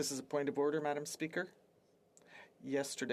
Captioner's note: speaking French